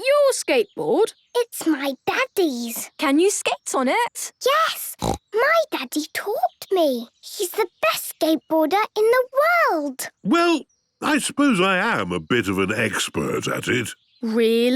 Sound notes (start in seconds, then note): 4.9 snorts